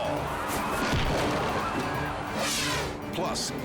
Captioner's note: crowd groans; body slams